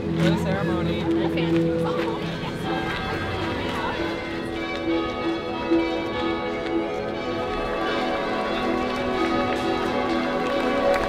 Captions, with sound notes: - Enjoy the ceremony. (bells chiming) (applause)